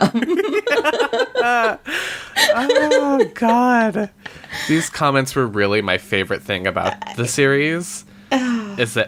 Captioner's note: laughs